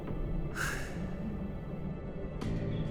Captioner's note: gasps